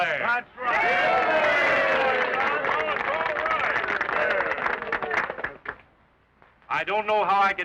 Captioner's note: applause and cheers